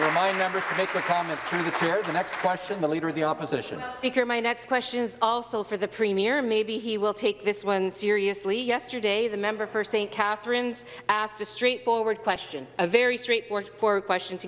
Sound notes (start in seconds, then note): 3.3 some Applause